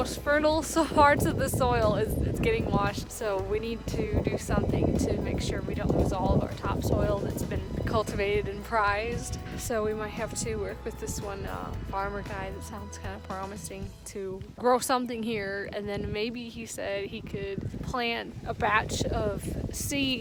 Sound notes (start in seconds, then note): none